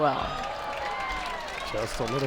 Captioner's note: crowd applauds